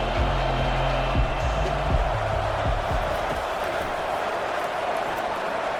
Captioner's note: crowd Noises